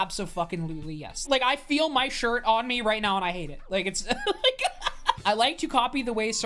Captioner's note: laughs